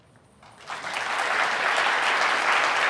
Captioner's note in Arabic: تصفيق